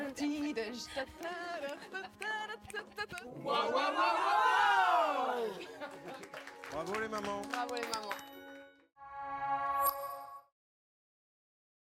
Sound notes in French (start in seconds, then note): 0.2 Natoo chantonne; 3.3 cri de guerre